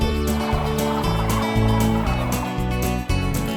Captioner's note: cranes calling